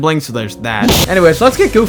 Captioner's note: spaghettifying black hole desk slam